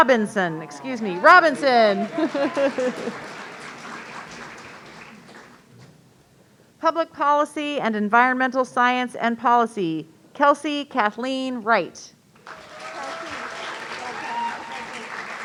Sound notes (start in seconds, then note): 2.5 audience applauding; 2.5 laughing; 12.4 audience cheering